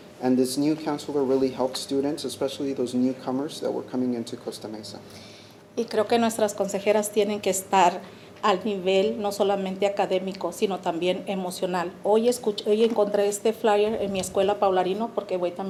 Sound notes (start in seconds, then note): 6.2 speaking Spanish